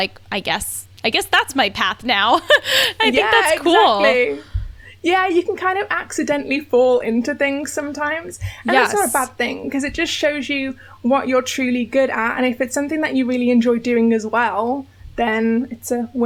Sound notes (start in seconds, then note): 2.4 laughs